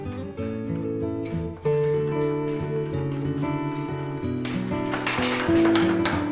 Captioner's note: banging